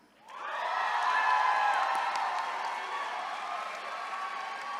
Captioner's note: attendees cheering